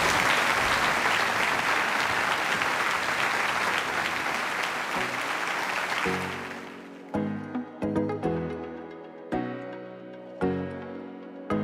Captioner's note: applause